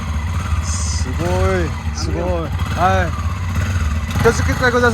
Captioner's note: Korean